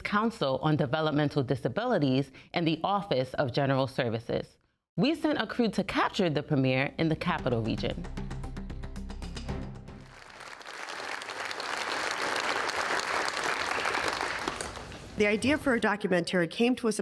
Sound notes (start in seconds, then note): 10.0 applause